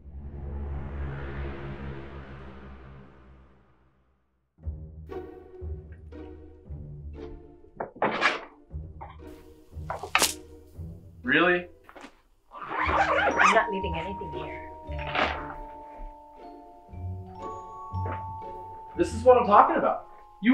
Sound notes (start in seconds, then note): 0.0 air swooshes; 4.6 quirky music; 7.8 drawer bangs; 9.9 jewelry clinks; 12.5 zipper zings